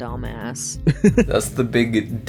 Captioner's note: laughs